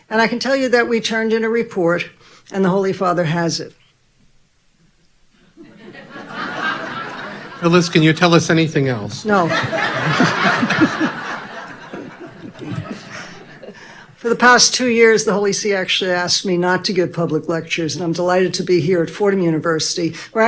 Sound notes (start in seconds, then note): 5.6 audience laughing; 9.2 all laughing loudly